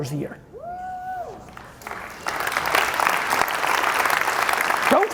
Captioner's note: audience applauding